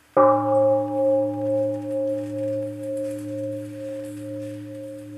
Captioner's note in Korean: 종소리